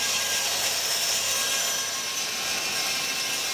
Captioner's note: sound of sawing